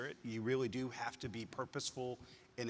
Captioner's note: none